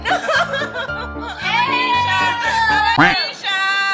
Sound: girls celebrating at the back

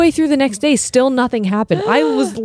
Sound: gasps

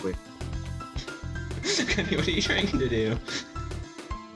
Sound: laughing

